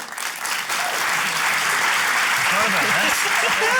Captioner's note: applause